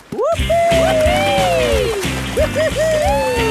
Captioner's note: both whooping